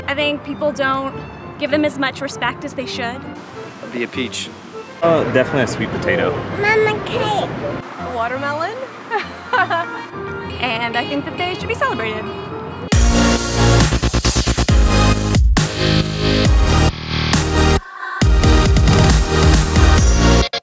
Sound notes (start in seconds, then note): 6.5 child babbles; 9.0 laughing; 12.9 upbeat music